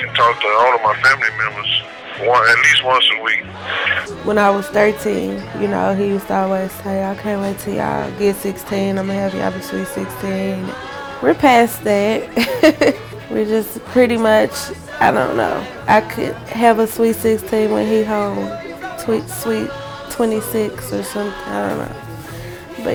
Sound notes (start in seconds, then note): 12.6 laughs